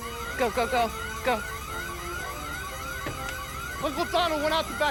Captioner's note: alarm blaring